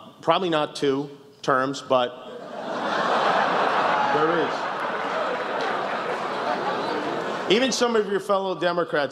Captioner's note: laughs